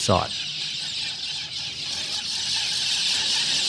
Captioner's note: intense bird noise